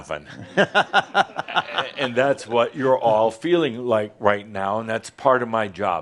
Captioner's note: laughter